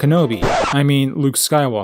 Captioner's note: record scratch